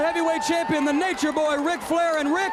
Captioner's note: crowd chatter